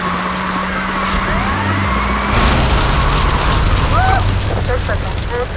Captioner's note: tires squealing